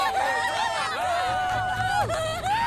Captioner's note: cheering